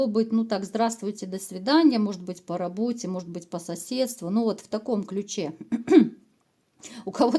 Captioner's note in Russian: откашливается